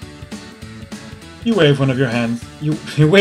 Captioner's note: laughs